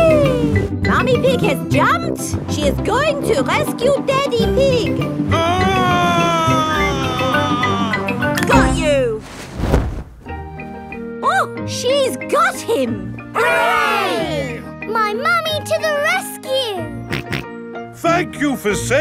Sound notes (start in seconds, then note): 5.4 screaming; 17.9 snorting